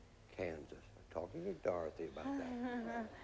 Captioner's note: mumbling